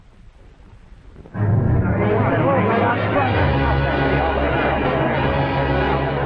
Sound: crowd noise

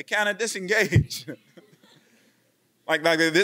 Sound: laughing

